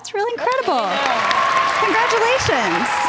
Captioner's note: audience cheers and applause